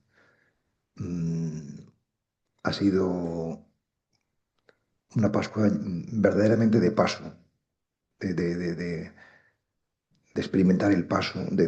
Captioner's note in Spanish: carraspeo